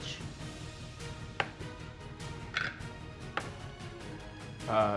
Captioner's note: dice rolling